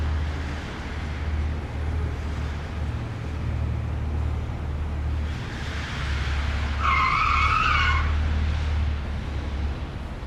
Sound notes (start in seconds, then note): 6.1 tires squealing